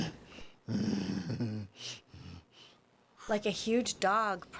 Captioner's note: Groden grumbles